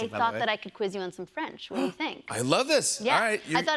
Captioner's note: none